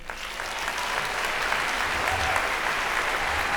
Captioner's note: applause